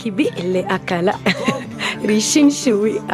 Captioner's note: in Kakchiquel